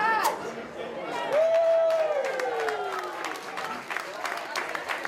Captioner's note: scissors snip; crowd cheers